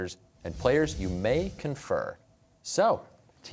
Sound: none

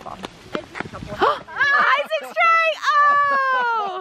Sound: gasps

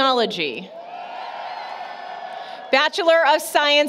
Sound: applause, Cheering

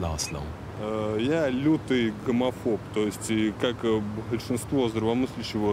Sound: speaking in foreign language

